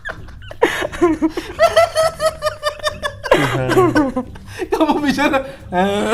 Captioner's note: laughing